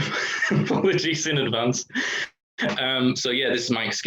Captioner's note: laughter